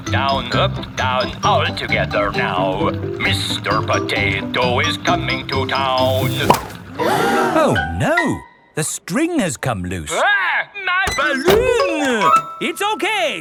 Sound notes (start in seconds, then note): 6.8 all gasp